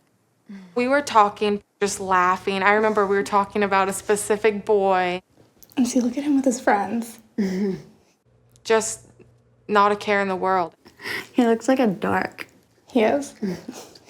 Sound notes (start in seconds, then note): 7.2 laughs